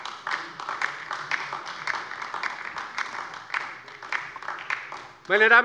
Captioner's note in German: Beifall bei der LINKEN